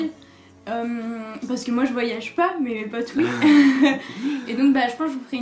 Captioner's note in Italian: ridere